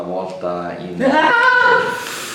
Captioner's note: screaming in terror